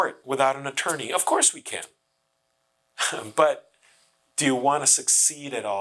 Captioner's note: chuckles